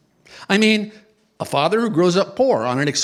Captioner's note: none